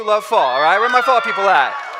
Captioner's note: cheering